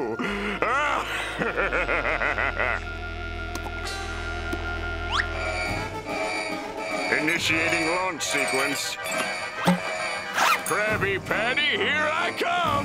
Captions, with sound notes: [laughing] [buzzer sounding] Initiating launch sequence. Krabby Patty here I come!